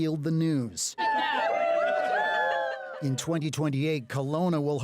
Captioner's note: cheering